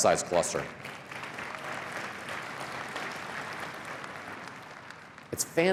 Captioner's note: cheering and applause